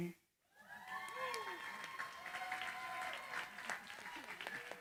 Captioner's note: cheering, applause